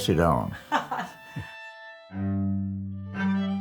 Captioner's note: laughs